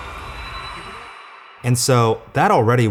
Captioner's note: crowd screaming echoes